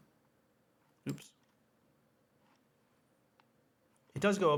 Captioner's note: mouse clicks